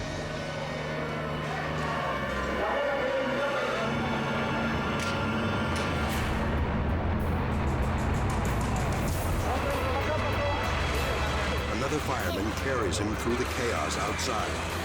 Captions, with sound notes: (tense dramatic music) (all shout in Spanish) Another fireman carries him through the chaos outside.